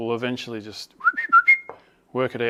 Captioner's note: whistles